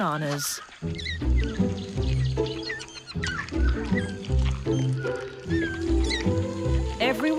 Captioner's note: soft bright music; Beni squeaking